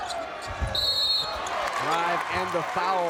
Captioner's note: whistle blows